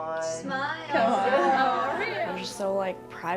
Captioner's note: people chatting; group laughing